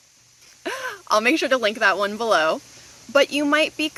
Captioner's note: laughs